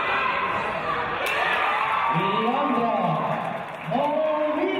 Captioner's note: applause